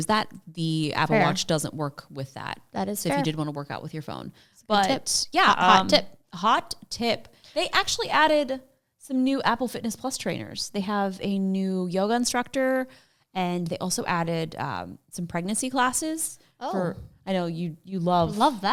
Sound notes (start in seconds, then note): none